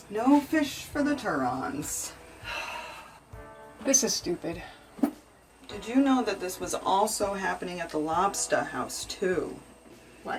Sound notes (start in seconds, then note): 2.5 Brooke sighs